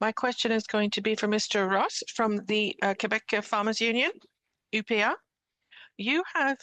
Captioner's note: speaking French